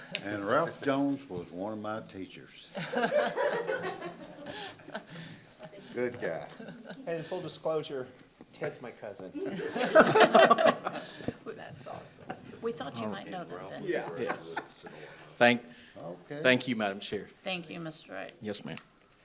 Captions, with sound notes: - And Ralph Jones was one of my teachers. (people laughing) Good guy. - And full disclosure, Ted's my cousin. (group laughing) - That's awesome. - We thought you might know that then. - Yes. - Thank you Madam Chair. - Thank you Mr. Wright. - Yes ma'am.